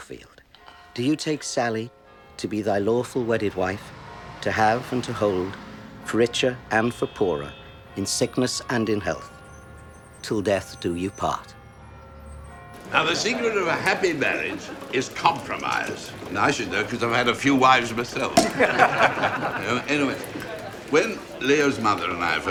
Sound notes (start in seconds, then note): 17.9 people laughing